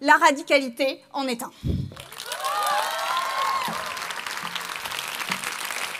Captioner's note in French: Applaudissements